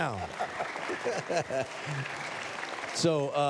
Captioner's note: applause